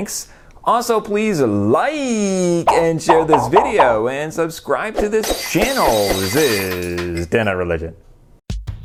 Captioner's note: popping noises; glass breaking